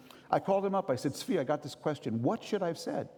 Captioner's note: none